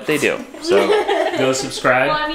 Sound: everyone laughs

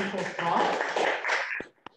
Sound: applause

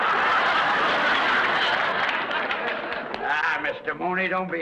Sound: audience laughs

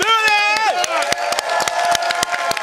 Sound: applause; cheering

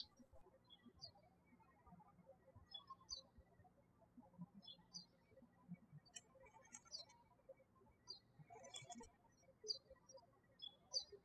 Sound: birds chirping

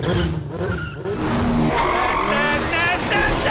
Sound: tires screeching

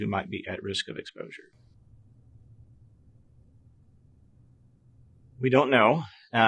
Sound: silence

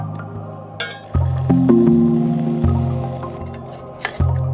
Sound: water pouring

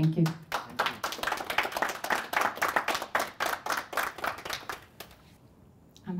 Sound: applause

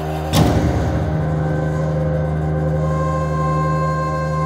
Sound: nightmare machine blares

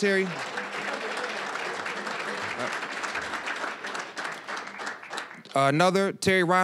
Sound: applause

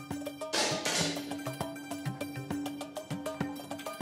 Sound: suspenseful music; rifle fires

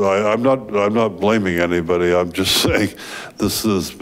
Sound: chuckles

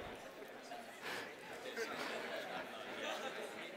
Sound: laughter

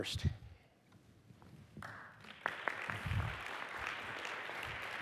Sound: applause

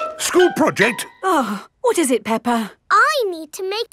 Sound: gasps; sighs

